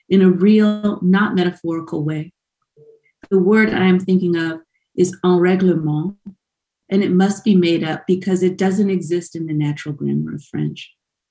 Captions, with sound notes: in a real not metaphorical way. The word I'm thinking of is (in foreign language) and it must be made up because it doesn't exist in the natural glamor of French.